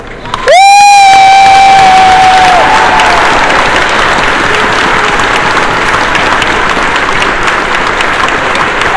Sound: cheering

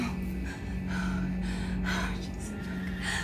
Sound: panicked breathing

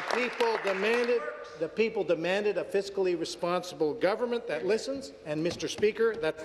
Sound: applause

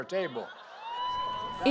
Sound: cheering and applause

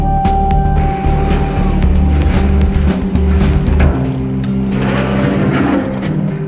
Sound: backhoe loader churning

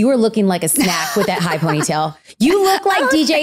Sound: laughing

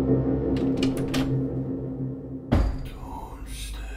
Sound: door Open

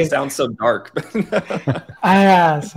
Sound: laugh

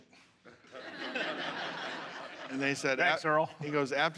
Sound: laughter

